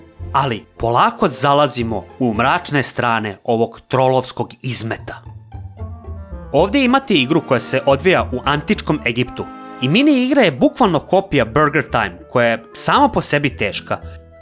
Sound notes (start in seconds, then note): none